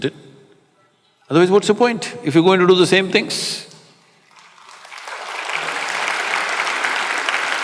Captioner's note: applause